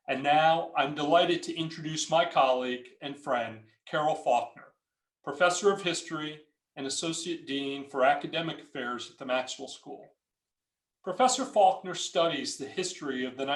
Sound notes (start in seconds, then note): none